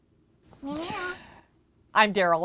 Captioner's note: meowing